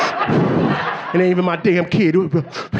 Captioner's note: puffing